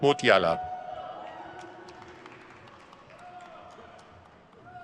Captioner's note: crowd claps